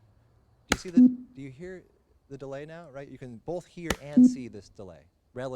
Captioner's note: click then beep; click then loud beep; click then beep